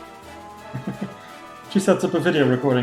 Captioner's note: chuckles